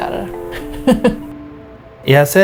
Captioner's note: laughing